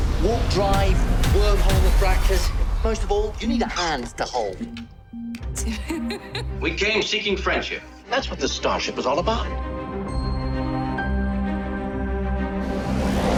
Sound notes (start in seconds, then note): 5.5 laughs; 9.1 intense music